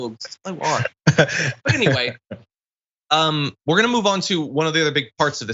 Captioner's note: laugh